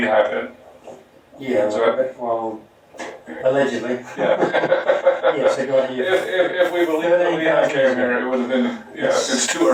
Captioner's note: chuckling